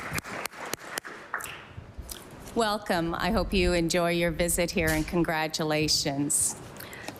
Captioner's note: applause